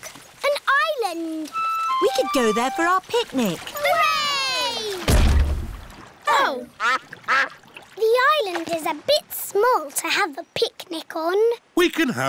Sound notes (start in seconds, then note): 4.4 peppa and george cheer; 5.0 thud